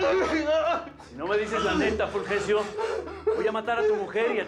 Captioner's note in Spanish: sollozos